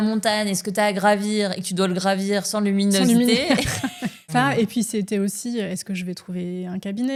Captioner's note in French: rires